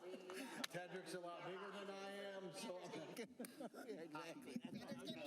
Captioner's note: laughter